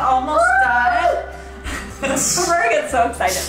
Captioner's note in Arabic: يضحكان